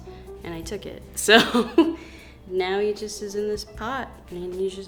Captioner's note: laughs